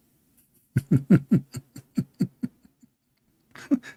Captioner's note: Ketawa